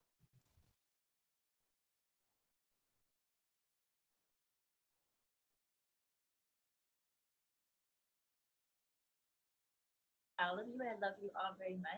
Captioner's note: audio is cut out